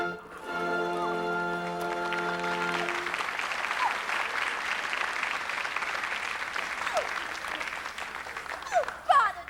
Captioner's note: applause